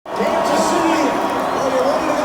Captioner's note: cheering